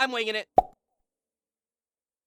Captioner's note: pop